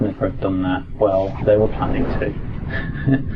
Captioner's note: laugh